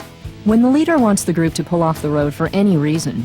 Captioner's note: voiceover